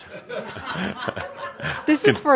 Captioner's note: chuckling; laughter